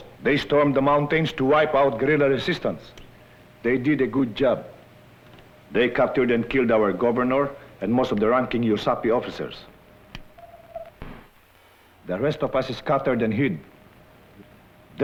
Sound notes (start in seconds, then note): 8.6 non-english